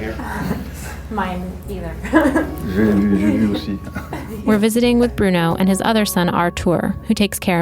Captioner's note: laughter